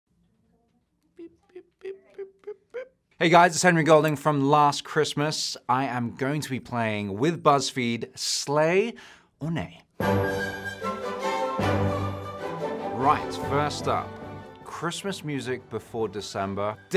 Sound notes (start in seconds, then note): 1.1 Henry mimics beeping; 10.0 upbeat Christmas music